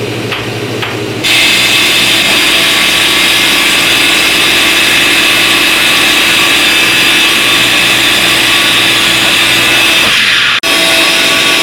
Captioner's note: grinding noise